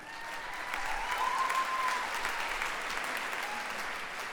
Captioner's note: cheers